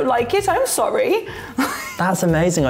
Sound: laughs

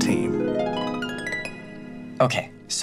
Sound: screen chimes

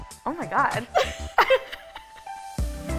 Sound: both laughing

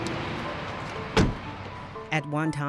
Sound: voiceover

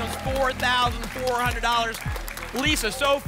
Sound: applause and cheering

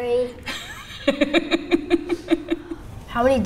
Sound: laughing

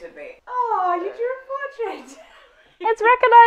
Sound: laughing

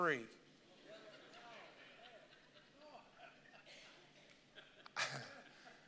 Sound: congregation laughing

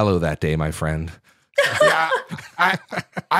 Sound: laughter

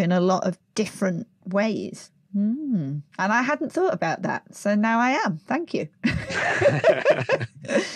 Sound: laughs

